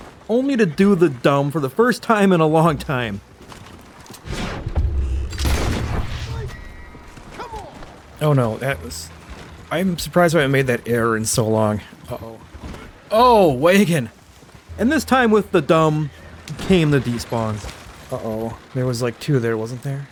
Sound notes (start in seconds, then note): none